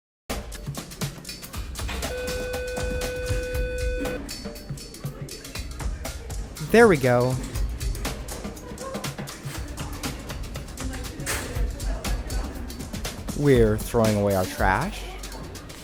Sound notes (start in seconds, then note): 0.3 driving drum beat; 2.1 school bell tone